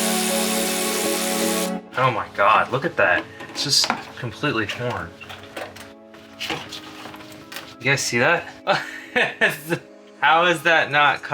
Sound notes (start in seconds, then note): 8.6 laughs